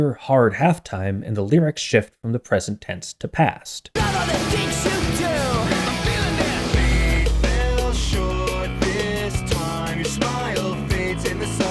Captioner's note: bang